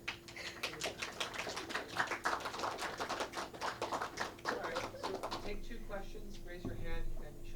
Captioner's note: clapping